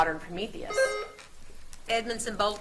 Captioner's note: buzzer beeps